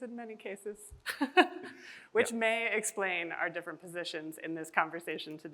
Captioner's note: chuckles